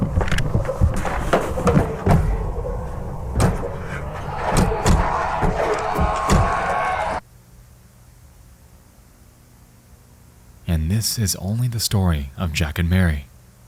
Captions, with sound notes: (clattering) (screeching) And this is only the story of Jack and Mary.